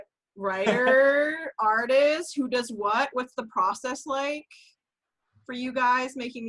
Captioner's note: laughs